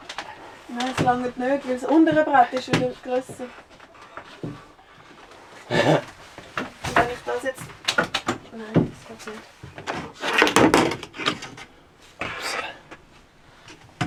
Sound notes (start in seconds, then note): 5.4 laughter